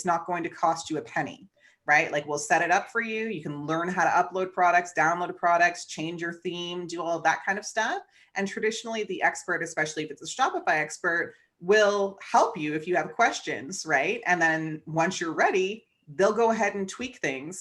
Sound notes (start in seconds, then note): none